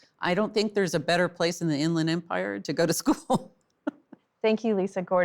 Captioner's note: laughs